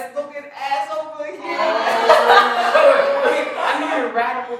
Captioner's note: laughter